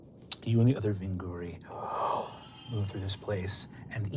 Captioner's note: powerful inhaling